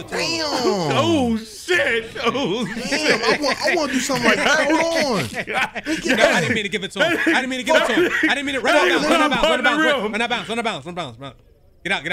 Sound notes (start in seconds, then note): 2.4 laughing